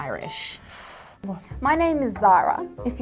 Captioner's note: sucking in breathe